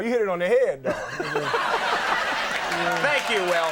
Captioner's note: Conan and audience laughing